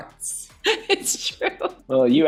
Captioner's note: laughing